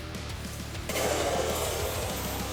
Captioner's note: glass shatters